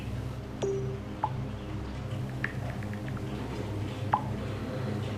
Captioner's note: phone alert beeps